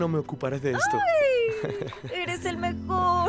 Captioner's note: Daniel ríe